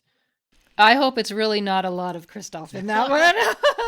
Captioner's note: laughter